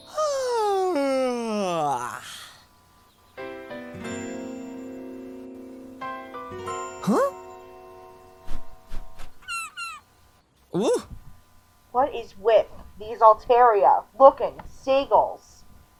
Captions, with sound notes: - (yawning) (piano sting) Huh? - (whooshing, seagull cawing) - Ooh! What is with these Altaria, looking, seagulls?